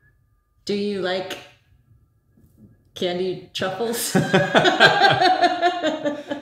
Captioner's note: laughing